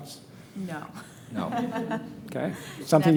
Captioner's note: laughing